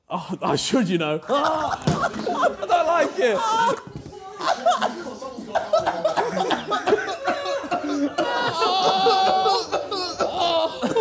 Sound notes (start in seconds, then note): 1.5 laughing; 4.2 all cackling